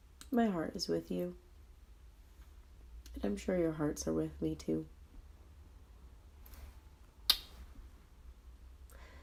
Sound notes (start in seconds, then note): 7.2 blows kiss